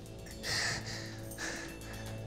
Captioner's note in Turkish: Nefes sesi